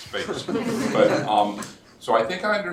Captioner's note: laughter